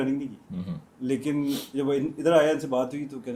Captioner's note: nasal noise